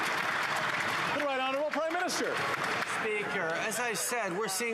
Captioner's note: applause